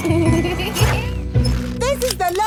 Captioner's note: laughing